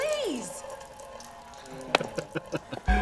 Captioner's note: urine splashes; Katya laughs